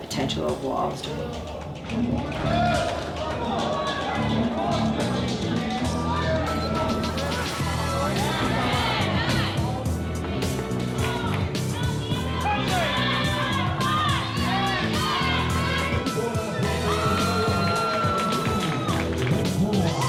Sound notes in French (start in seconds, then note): 2.9 acclamation de la foule